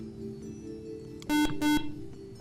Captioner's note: buzzer